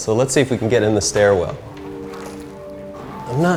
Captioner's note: none